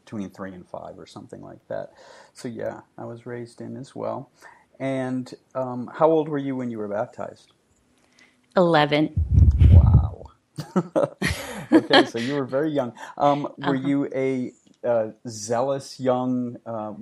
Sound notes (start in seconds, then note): 10.6 laughing